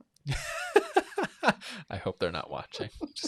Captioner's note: laughs